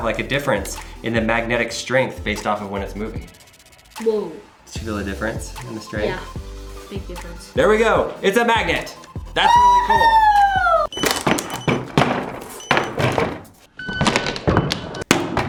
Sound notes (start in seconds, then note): 9.4 cheering; 10.9 board slamming and beeping